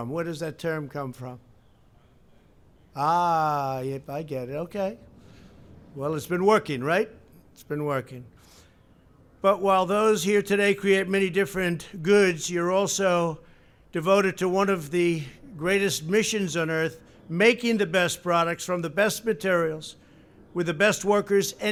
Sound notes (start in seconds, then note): 1.9 off-mic